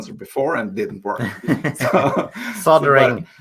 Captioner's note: laughing